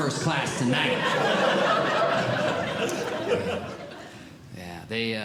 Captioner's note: audience Laughing